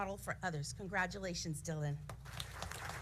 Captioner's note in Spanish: aplausos